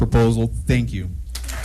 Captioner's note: applause